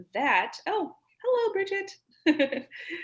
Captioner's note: giggles